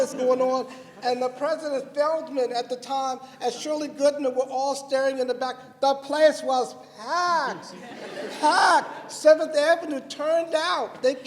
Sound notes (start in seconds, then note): 7.6 laughter